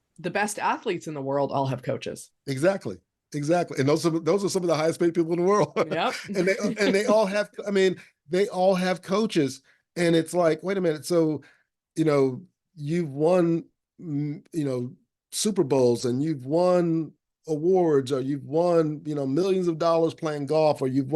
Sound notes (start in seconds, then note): 5.5 laughing